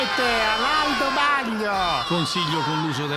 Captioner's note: all exulting